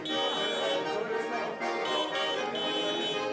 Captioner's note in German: Autohupen